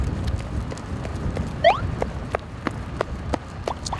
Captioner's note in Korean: 갑자기 뒤에서 들려오는 발소리...?